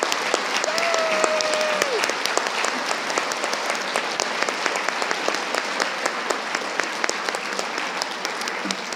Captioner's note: audience applauding